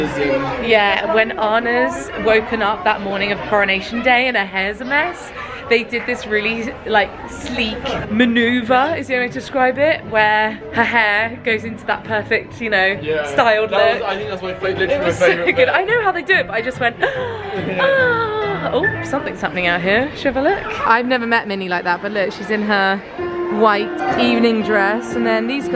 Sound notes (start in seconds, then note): 17.1 gasps